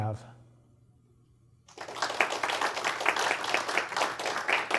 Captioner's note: applause